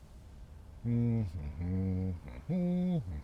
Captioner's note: humming